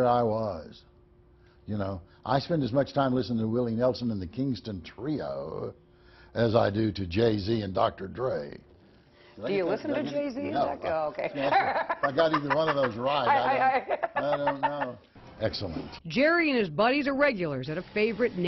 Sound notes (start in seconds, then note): 15.2 laughter